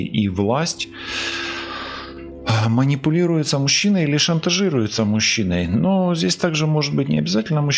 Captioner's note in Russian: вздыхает; тяжело вздыхает